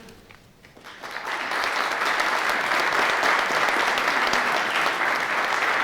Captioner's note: audience clapping